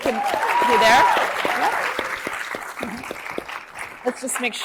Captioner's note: audience cheers